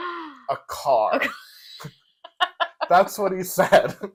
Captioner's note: laugh